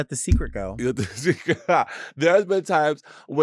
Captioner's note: laughs